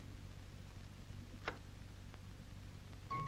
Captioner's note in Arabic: نقرات المقبض; تلعب موسيقى هادئة